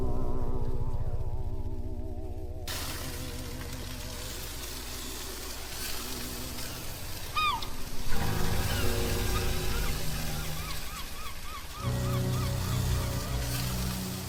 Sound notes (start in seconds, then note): 0.3 ominous music continues; 4.4 chicken sizzling; 8.0 gulls squawking; 11.2 ominous music; 14.1 gulls squawking